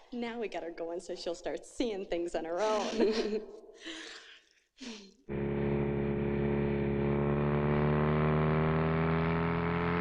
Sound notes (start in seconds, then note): 5.3 motorcycle revving